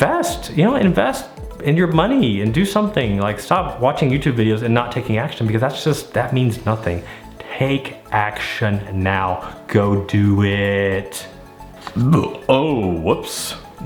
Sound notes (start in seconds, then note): 11.8 belching